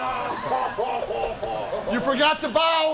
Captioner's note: group laughs